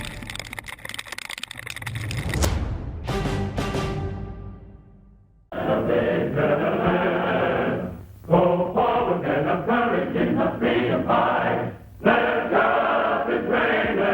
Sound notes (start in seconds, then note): 2.2 explosion rumbles; 5.4 dramatic choral music